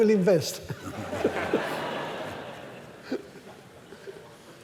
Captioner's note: laughter